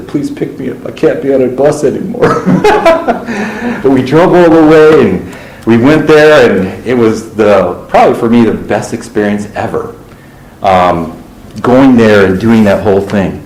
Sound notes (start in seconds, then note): 2.2 laughter